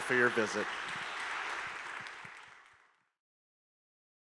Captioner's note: audience applause